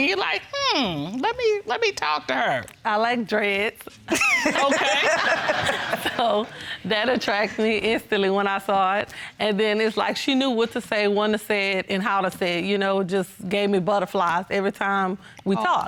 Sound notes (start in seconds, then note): 4.1 laughter